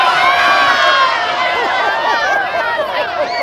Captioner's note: children cheering; laughing